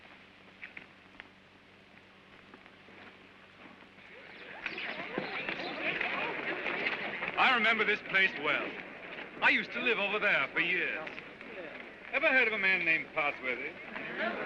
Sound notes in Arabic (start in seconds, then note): 3.9 زقزقة الطيور و ثرثرة الأطفال